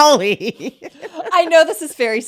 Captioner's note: both laughing